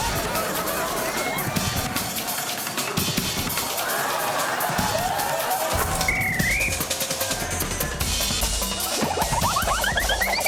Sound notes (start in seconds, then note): 3.5 laughter; 5.7 whistle blows